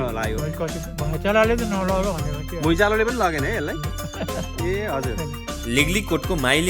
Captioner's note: laughter